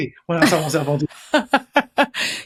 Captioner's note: laughs